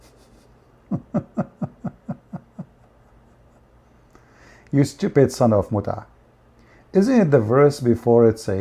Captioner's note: Ketawa